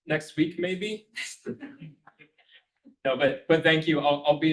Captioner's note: students chuckling